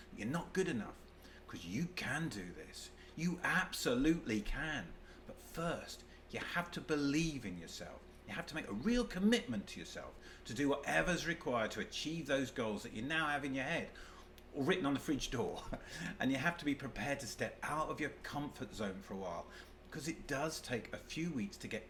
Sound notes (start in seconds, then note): 15.3 chuckles